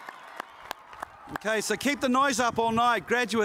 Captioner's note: cheers and applause